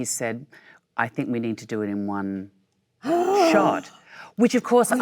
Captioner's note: Michelle gasps